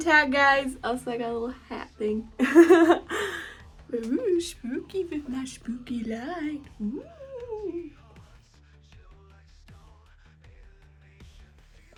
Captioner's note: laughs